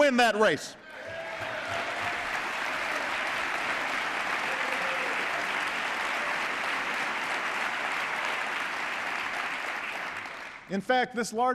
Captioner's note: applause